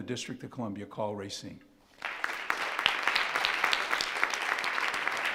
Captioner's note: all applauding